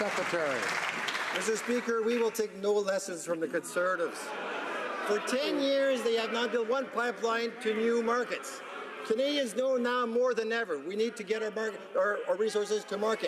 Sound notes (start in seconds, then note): 3.1 applause